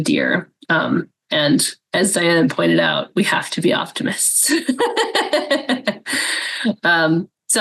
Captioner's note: laughs